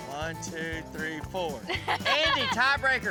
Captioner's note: laughter